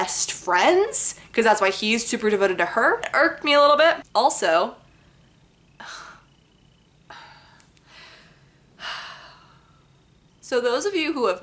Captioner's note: big sigh